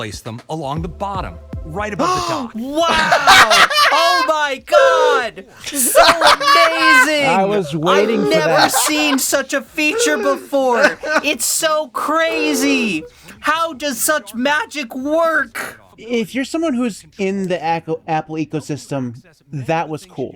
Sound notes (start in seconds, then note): 2.0 gasps; 3.6 dies laughing in the overdue icon moving